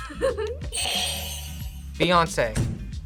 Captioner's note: laughs; buzzer rings